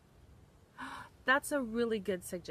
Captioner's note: gasps